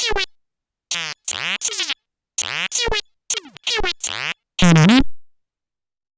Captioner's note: C64 simulated speech